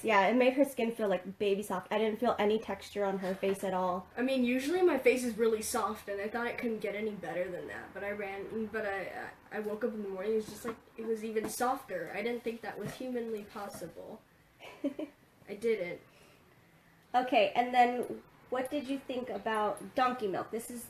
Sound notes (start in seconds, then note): 14.6 laughs